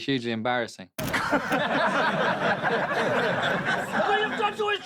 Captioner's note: crowd laughing